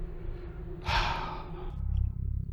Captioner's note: sighs